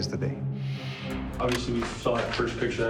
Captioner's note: clicking